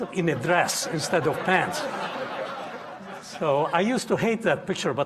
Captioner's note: audience laughing